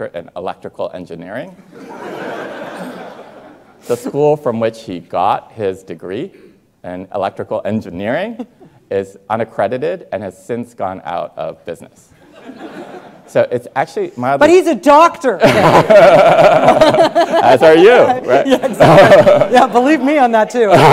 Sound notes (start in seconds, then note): 1.6 students laughing; 12.2 students laughing; 15.4 everyone laughing